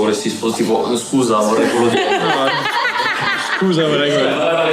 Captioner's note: laughs